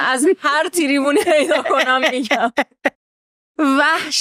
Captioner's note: laughs